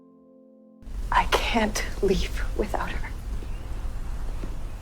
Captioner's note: voiceover